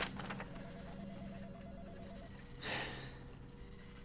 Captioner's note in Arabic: رنين الهاتف; تتنهد